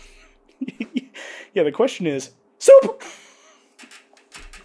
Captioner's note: giggles